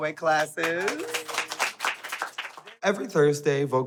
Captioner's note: all clapping